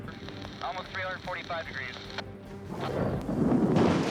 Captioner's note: man on radio; thunder crashes